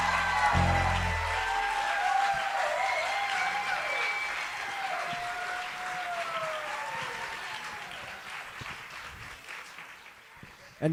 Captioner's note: applause